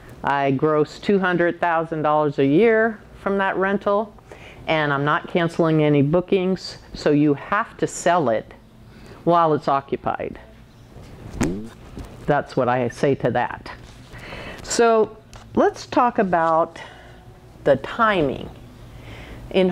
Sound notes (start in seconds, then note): 11.4 slapping